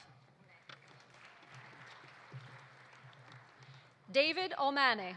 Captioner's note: audience applauding